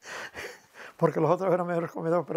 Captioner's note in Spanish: ríe